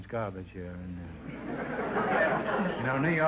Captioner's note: audience laughter